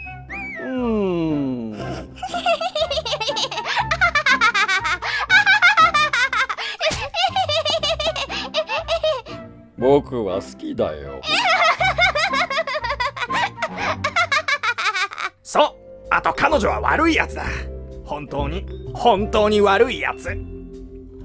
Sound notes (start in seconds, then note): 1.7 hysterical laughter; 11.2 laughter off-screen